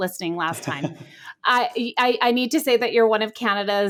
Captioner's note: chuckles